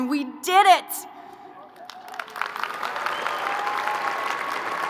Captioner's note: crowd applauding